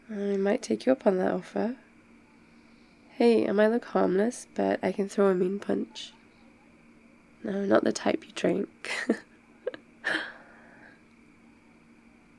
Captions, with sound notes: I might take you up on that offer hey, I might look harmless but I can throw a mean punch no, not the type you drink *laughs*